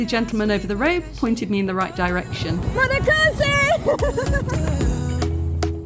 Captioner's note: laughing